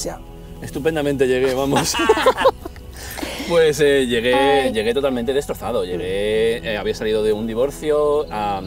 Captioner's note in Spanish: risas